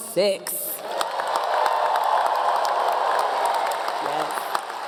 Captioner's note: audience Cheering